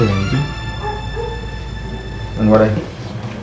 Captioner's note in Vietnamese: Tiếng chó sủa gâu gâu